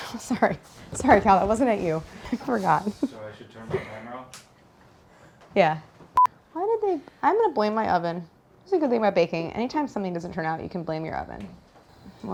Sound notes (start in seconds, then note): 6.5 camera beeps